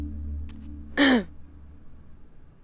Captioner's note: Tipsy coughs